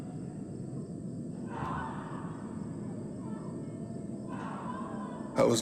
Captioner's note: crying out